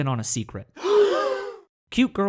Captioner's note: gasp